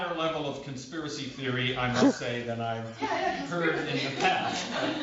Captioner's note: laughter